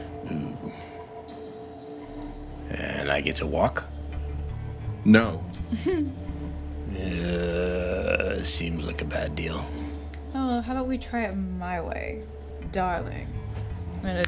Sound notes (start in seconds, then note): 5.6 chuckling